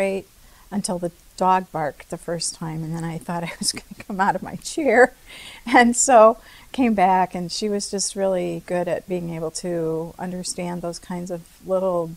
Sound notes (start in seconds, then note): 3.4 laughing